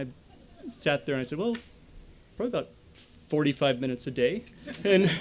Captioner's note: laughter